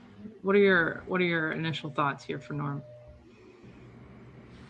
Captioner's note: buzzer sounds